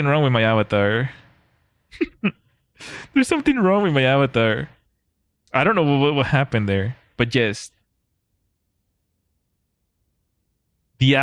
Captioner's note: laughter